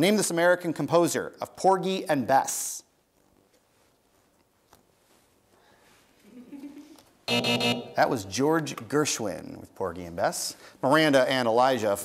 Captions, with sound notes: name this American composer of Porgy and Bess. (chuckles) (buzz) That was George Gershwin with Porgy and Bess. Miranda and Elijah,